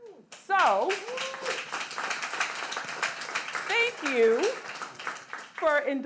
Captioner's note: audience clapping